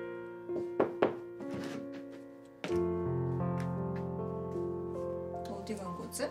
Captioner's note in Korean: 노크 소리